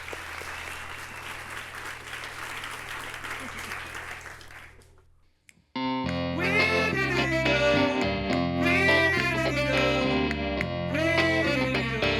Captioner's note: applause